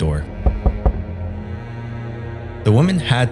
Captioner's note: banging